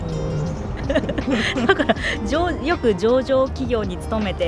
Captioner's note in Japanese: 笑い